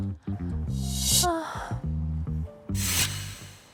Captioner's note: sound effect: checking surroundings